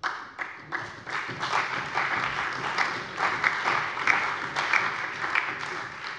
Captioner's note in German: Allgemeiner Beifall